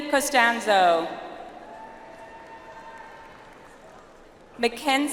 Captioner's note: audience applauds